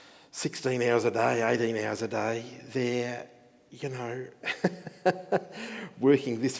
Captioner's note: chuckles